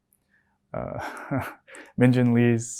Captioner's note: laughs